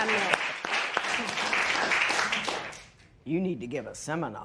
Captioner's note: applause